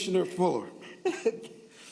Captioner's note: laughter